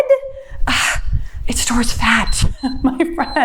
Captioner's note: sighs exasperatedly; timer beeps; laughs